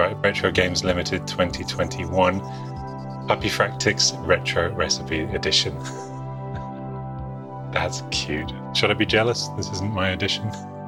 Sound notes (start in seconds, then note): 7.1 laughs